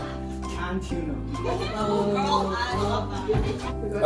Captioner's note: audience laughing and oohing